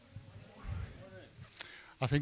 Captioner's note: audience murmurs "Good morning"